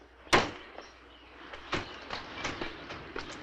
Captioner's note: door thuds